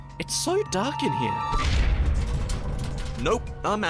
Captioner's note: loud shaking